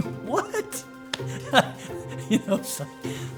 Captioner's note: laughs